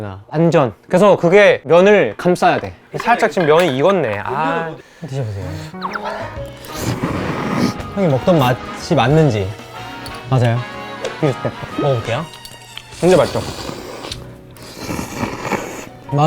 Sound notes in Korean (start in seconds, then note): 5.7 흡입